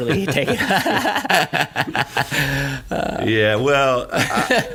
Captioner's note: laughing